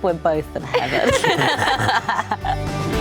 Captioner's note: laughing; uplifting instrumental music